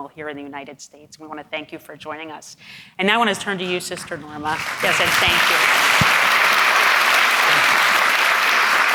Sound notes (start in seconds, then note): 4.5 audience applauding